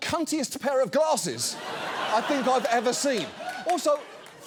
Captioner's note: audience laughs